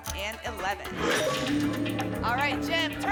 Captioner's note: lock sound